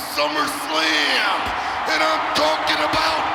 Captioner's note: audience cheering